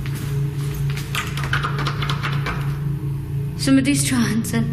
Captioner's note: rattling handle